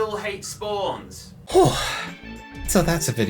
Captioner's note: exhausted exhale